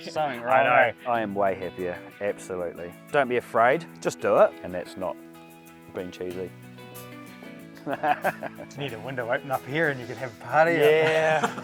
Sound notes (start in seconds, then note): 7.8 laughs